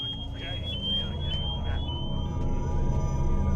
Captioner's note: alarm